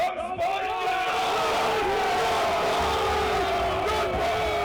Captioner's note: cheering